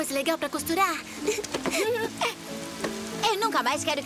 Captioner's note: giggling